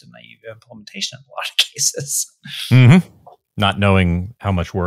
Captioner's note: laughs